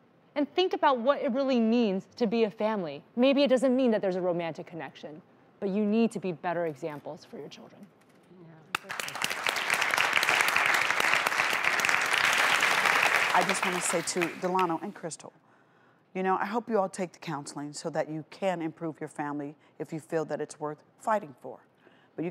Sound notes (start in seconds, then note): 8.7 audience applause